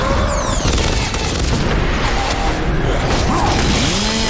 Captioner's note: avatar grunting; guns booming; chainsaw whirring